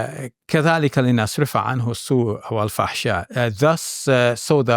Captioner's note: speaks Arabic